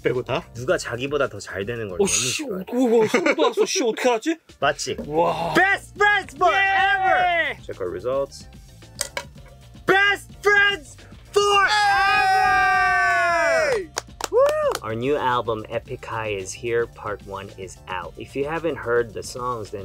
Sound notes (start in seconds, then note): 0.1 speaking in Korean